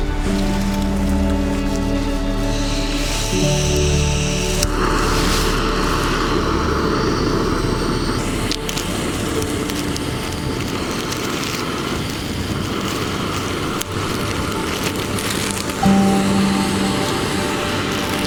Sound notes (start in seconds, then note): 2.0 sound of gas and ignition